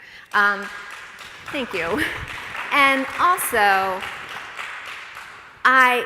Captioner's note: some scattered applause